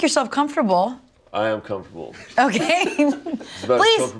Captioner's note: laughs